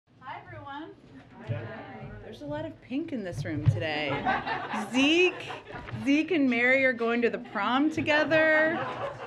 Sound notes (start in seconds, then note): 4.0 laughter; 8.3 laughter